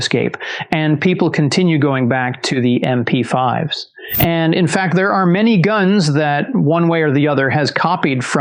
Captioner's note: whoosh